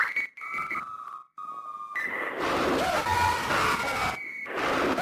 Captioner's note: distorted screaming